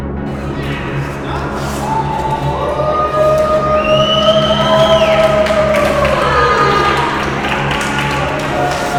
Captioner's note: screams and whistles